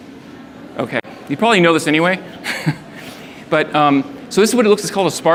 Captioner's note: laughs